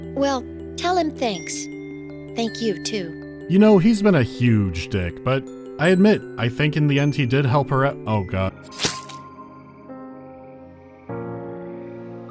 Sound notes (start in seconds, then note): 8.6 stab